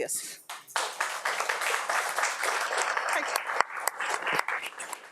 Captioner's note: audience applauds